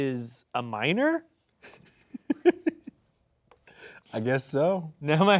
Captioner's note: chuckling